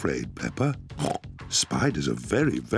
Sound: pig snorting

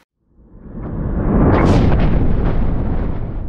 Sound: rumble

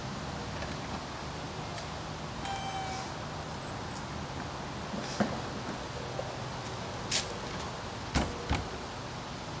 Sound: door opens and closes

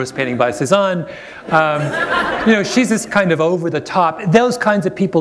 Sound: laughter

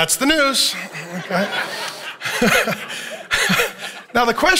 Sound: congregation laughing

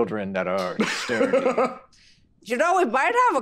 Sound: Carlos laughing

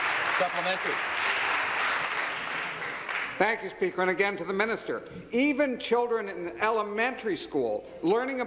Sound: applause

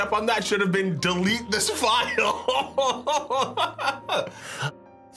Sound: laughs

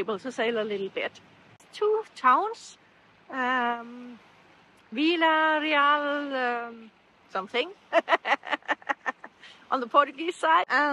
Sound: laughter

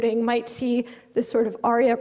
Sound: none

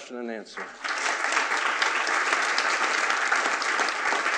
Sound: attendees applauding

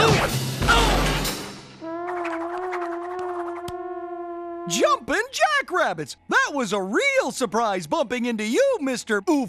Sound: grunting and crashing

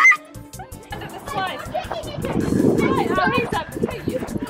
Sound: screaming; wind blowing

